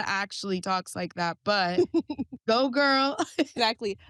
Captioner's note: both chuckle